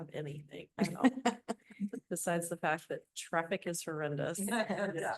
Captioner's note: laughter